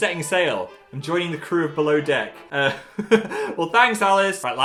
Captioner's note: laughs